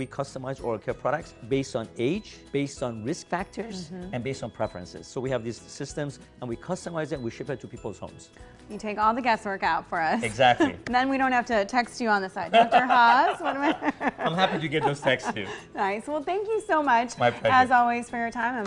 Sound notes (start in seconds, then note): 12.5 doctor laughing